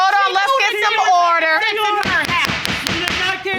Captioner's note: gavel pounding